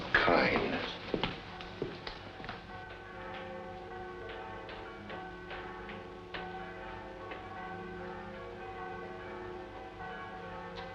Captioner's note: church Bells